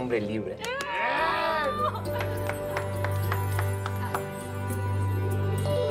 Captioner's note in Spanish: Exclamaciones de alegría